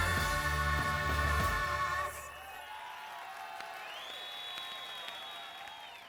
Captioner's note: cheers and whistles